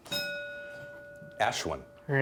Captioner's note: bell dinging